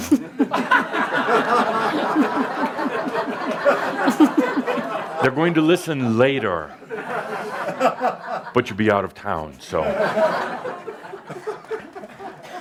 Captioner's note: much laughter